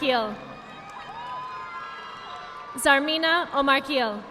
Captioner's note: audience applauding